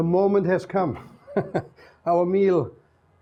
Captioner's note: chuckles